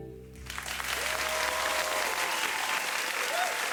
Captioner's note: audience applause